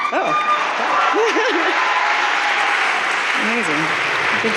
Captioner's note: audience cheering